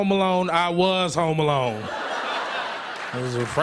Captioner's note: laughter